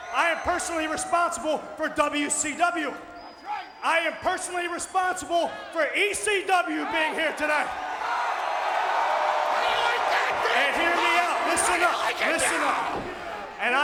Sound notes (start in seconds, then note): 6.6 audience cheering